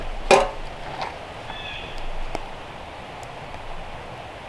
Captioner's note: blue jay calling